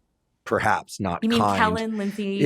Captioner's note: laughs